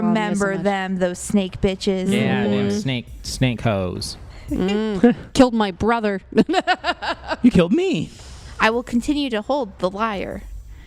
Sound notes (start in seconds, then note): 2.1 make sounds of assent; 4.6 laughs